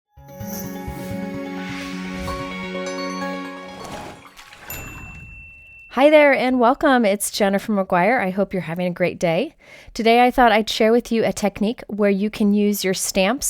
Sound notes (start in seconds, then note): 0.2 wondrous music; 4.6 ding